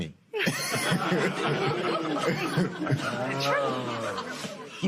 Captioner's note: laughs